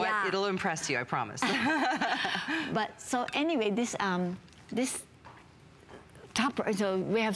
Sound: laughter

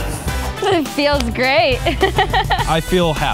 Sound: laughs

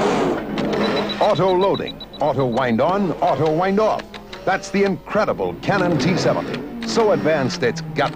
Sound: beeping

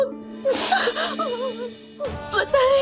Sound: crying

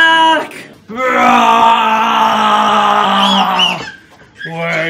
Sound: playful growling; girls squealing

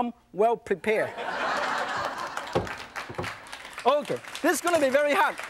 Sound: audience laughs

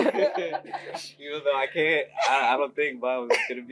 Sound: laugh

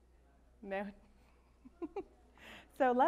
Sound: laughs

